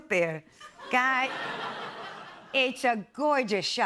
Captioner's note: laughter